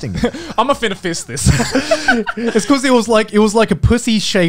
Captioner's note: laughs